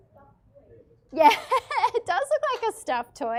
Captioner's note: laughs